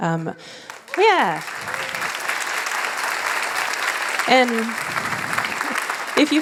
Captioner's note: applause